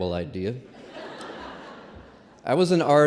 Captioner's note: laughter